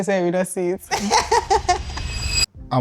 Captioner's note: laughs